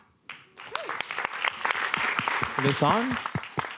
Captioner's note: applause